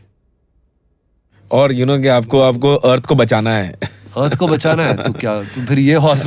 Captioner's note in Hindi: हंसी